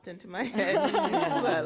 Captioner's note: laughter